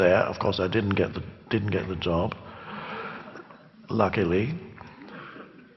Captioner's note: clears throat